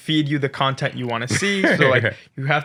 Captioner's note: laughs